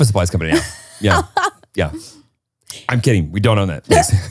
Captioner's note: laughs